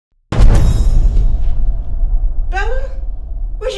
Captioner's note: startling tone